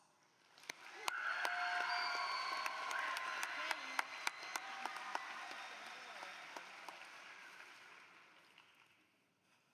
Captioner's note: applause